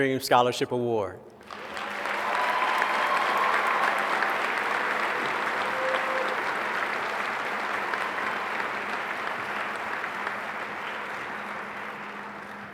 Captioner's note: applause